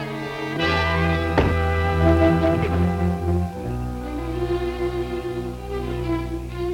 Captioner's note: grunting; thudding